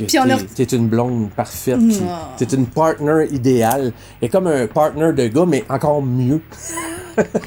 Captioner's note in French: rires